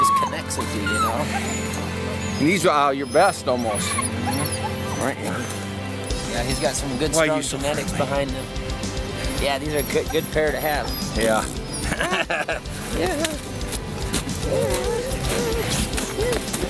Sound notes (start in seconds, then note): 12.7 laughs; 14.1 soft music